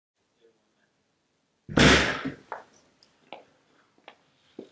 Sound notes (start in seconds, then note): 1.7 slam!